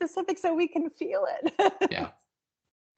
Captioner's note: chuckling